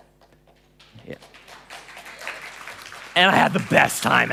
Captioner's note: applause